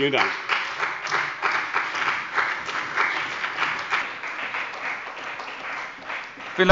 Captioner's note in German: Beifall bei dem BÜNDNIS 90/DIE GRÜNEN und der SPD